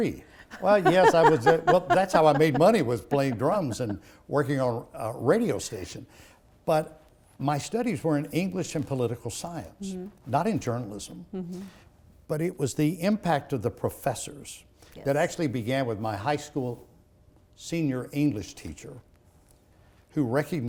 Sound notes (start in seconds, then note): 0.4 laughing